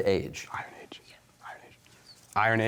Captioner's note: whispering